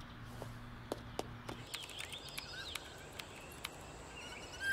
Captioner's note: Typing